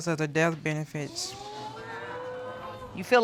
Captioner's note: audience exclaims